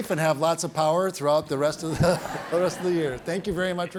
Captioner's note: everybody chuckles